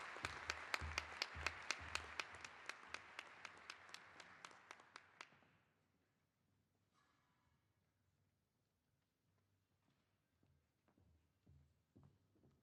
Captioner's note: applause